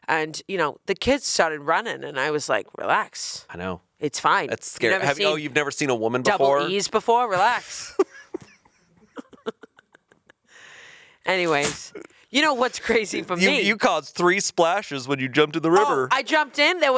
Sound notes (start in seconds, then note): 7.7 chuckling